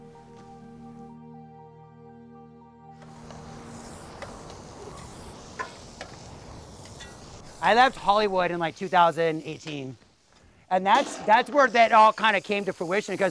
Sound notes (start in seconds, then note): 3.0 wind blowing; 3.7 sizzling